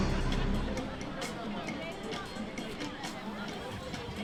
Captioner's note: street chatter